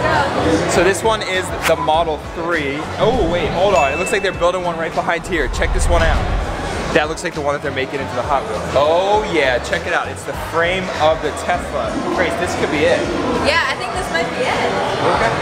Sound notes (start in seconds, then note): 3.6 dings; 4.4 dramatic bang